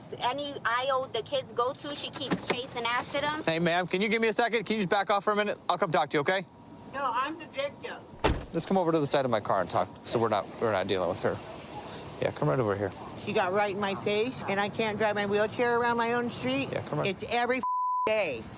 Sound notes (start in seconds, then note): 8.1 car door closes; 17.6 beep